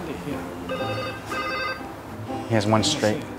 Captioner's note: phone rings